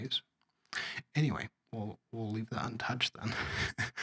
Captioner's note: laugh